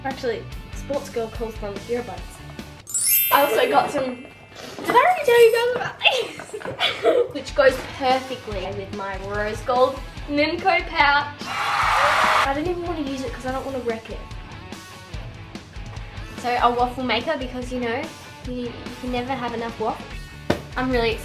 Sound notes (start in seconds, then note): 6.0 laughter; 11.8 audience applause